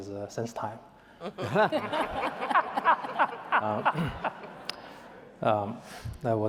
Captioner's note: laughter